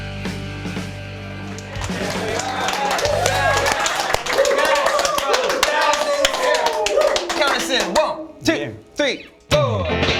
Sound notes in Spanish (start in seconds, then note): 1.2 Aplausos